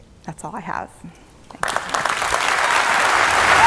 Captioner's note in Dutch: Applaus